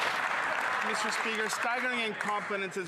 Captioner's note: applause